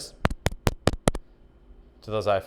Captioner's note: microphone thumping